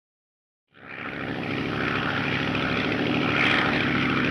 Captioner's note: engine droning